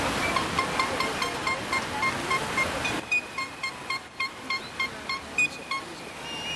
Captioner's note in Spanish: Cornetas y silbatos